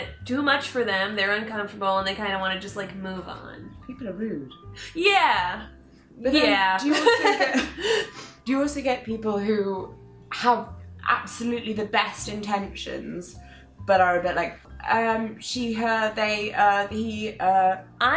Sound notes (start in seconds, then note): 6.9 laughing